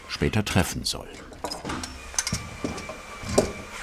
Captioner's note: screwing noises